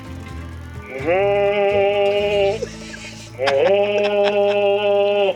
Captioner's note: mimics moose bellow